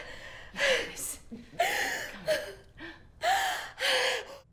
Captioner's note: Belle crying